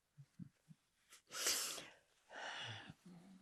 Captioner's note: sniffing; sighing